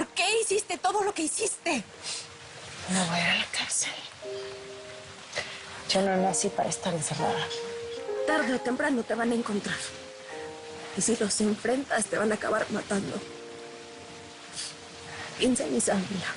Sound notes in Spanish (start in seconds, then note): none